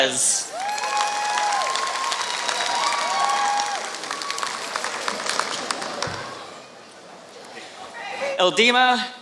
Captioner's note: applause